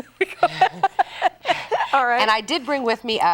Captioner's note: laughte